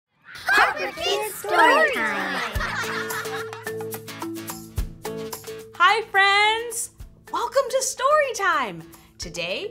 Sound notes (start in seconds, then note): 2.4 laugh